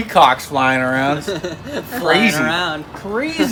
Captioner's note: laughing